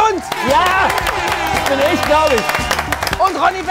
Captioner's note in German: Jubel, Applaus